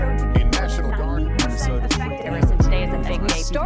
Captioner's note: reporters consecutively chattering